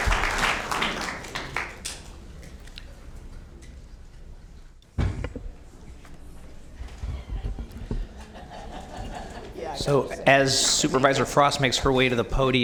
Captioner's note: applause